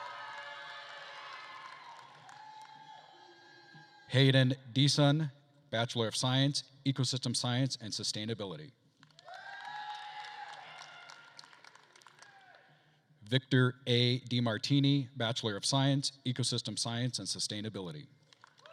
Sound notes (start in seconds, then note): 0.0 attendees cheering and applauding; 9.0 attendees cheering and applauding